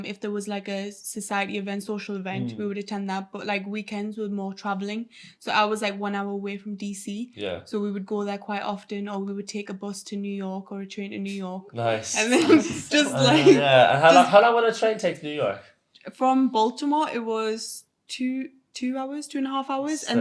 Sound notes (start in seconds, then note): 11.8 laughs